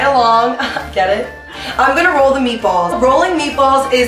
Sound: laughs

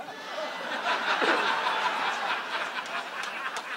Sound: audience laughs

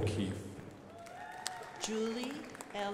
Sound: crowd applauding

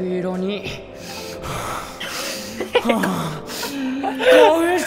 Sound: inhales creepily

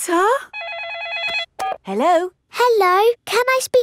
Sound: phone rings

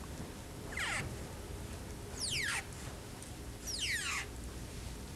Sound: fibers squeaking

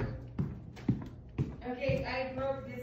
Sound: footsteps thumping

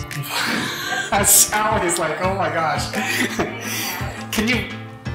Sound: laugh

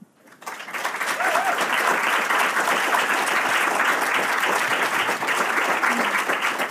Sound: audience clapping hands

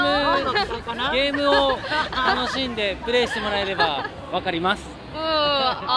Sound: laugh

